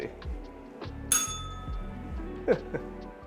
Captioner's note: bell rings; laughs